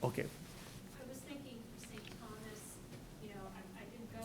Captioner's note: voiceover